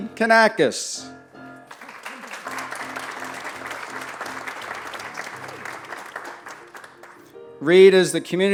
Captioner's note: applause